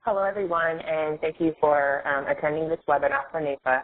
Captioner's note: voiceover